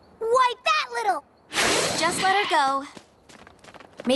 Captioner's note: zoom! Screech!